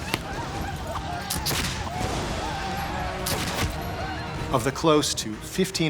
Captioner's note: war cries; gunfire